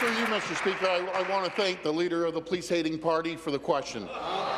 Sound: applause

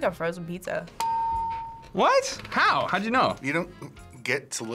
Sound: ding

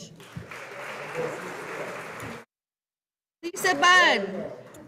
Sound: audience applauding

